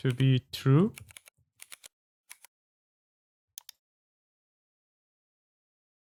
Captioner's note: typing